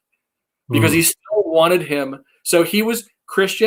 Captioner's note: faintly speaking